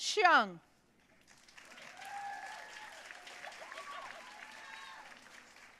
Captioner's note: audience cheering and applauding